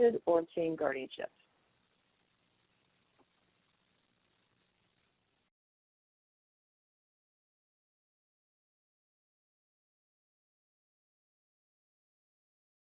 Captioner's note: silence